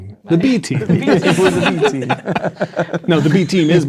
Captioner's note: players laughing